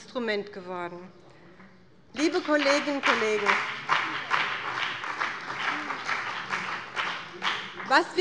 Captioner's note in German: Beifall bei dem BÜNDNIS 90/DIE GRÜNEN und der CDU